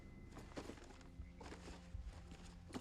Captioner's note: rustling